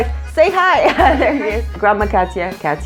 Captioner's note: laughs